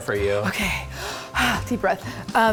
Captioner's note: exhale